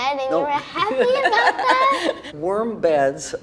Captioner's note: laughs